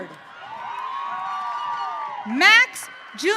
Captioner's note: audience cheering